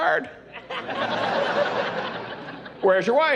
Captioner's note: laughing